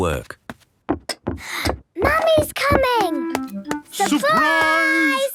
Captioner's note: footsteps approaching